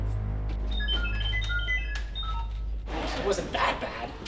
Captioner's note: R7 chirping